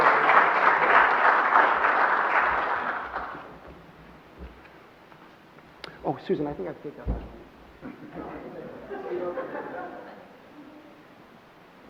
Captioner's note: applause